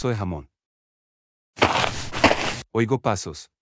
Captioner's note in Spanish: FX - Footsteps - On Multiple Dirt - Walk